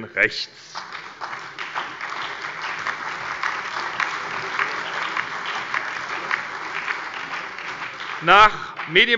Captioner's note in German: Beifall